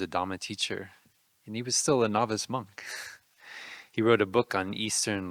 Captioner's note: laughing